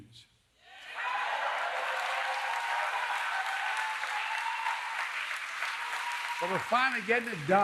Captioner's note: applause